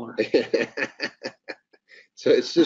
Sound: laughing

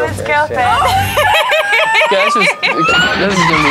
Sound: laughing

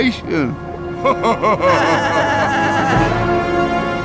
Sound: laughing

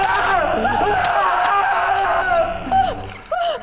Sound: rock crushes skull, bone breaks and snaps; Rhythmic hits of rock to bone and Mark's screams; Isabella crying uncontrollably

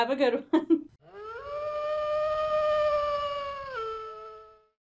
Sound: distant wolf howl

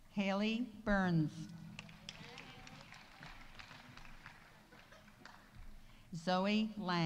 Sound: audience applauding; audience cheering

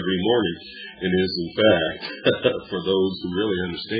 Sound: laughs

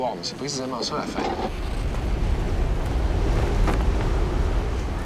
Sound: wind blowing

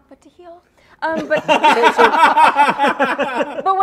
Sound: laughter

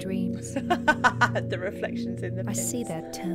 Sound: laugh

